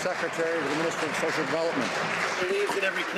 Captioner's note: some Applause